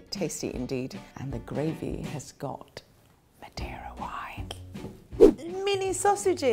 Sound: whispers

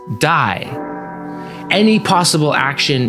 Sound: funeral bells again

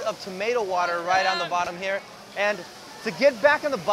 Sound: yelling

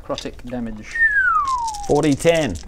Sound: impressed whistle

